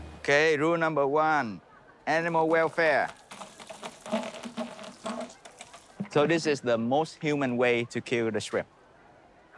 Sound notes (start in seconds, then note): 2.2 water splashing